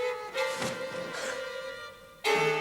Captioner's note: gasps